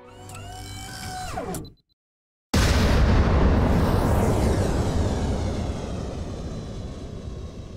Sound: beeping followed by sound of rocket launching

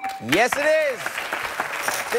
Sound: chimes

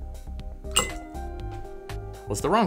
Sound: plop

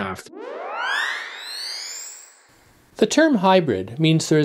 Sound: high pitched whirl

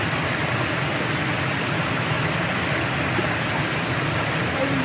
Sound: water crashing

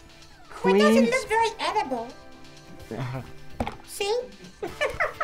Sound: laughs

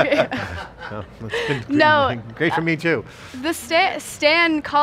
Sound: laughs

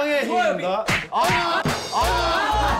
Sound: slap!

